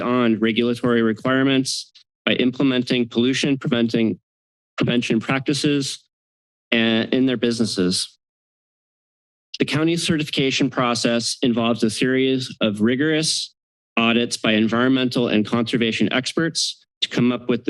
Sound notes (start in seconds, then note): none